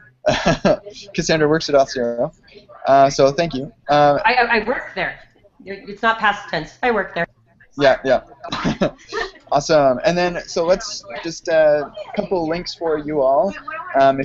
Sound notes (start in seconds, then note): 0.2 chuckles; 7.8 laughs